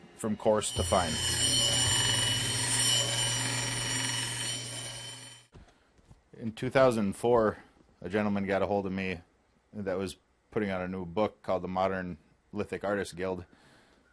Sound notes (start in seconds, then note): 2.8 grinding